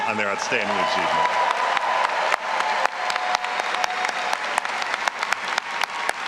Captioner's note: all applauding and cheering